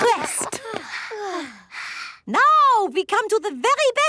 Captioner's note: panting